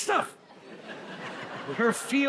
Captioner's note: audience laughs